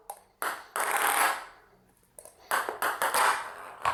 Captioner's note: ball bouncing